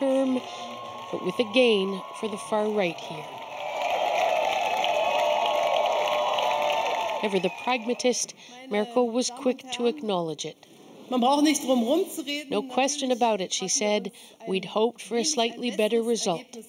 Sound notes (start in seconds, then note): 8.5 applause; 15.6 speaking german